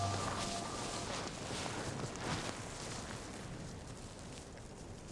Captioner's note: wind blowing